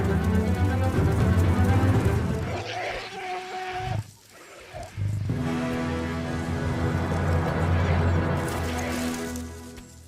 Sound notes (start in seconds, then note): 4.2 waterbuck groaning